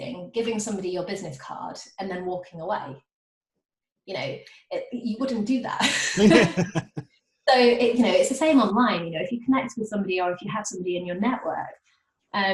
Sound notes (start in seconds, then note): 5.9 laughing